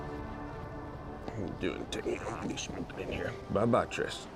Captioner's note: mumbling to triss